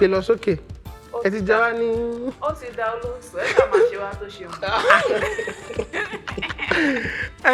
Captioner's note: laughs